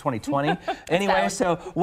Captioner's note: laughing